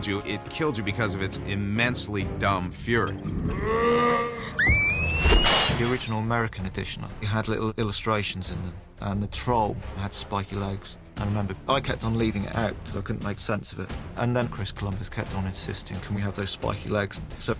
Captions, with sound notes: ...it killed you because of its immensely dumb fury. [TROLL YELLS] [SCREAMING] The original American edition, we had little illustrations... ...and the troll had spiky legs. I remember I kept on leaving it out because I couldn't make sense of it. And then Chris Columbus kept on insisting, "Can we have those spiky legs?"